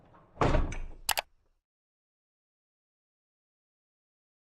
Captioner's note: clicking noise